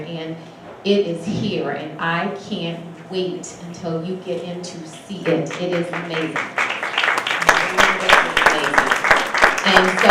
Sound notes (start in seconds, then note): 7.4 audience applauds